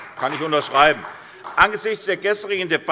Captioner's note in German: Beifall bei der SPD